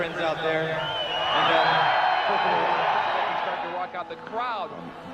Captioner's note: crowd cheering